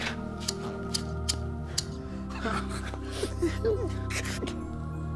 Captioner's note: clippers snipping